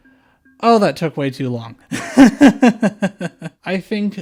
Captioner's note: laughter